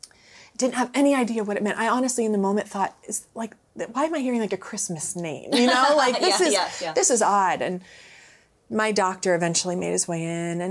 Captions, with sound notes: Didn't have any idea what it meant. I honestly, in the moment thought like, why am I hearing like a Christmas name? - (laughs) Yeah, yeah. - This is odd. And my doctor eventually made his way in,